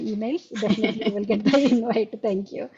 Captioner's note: both laughing